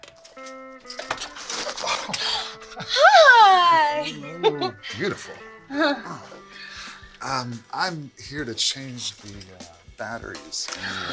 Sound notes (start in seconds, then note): 1.7 gasps; 4.3 Maha giggles